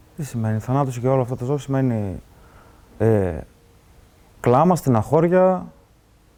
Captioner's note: speaking in foreign language